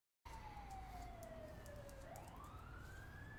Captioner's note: sirens